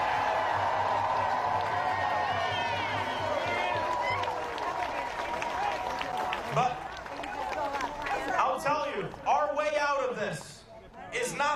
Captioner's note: cheering